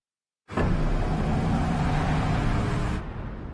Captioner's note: engine revving